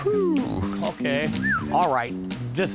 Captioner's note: whistles